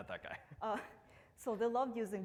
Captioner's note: laughs